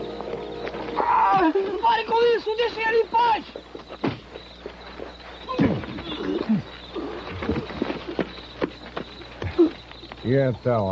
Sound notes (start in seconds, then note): 4.1 grunting, groans; 9.4 panting